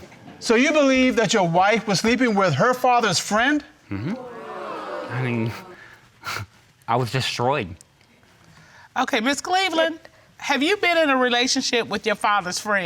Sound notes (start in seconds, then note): 3.9 scoffs; 3.9 audience gasps